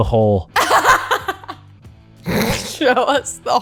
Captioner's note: laughter